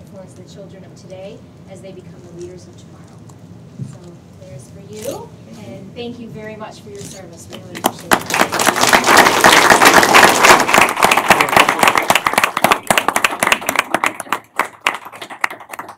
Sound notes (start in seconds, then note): 8.3 applause